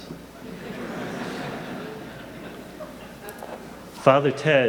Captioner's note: audience laughing